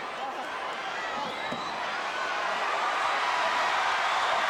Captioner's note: audience chattering; audience cheering